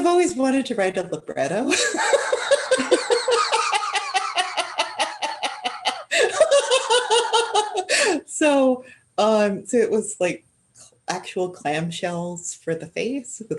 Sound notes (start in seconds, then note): 1.7 laughter